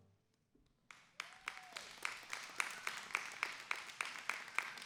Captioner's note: applause